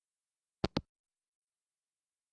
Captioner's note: hangup